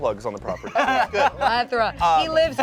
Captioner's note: everyone laughs